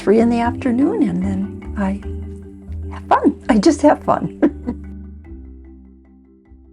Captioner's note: chuckles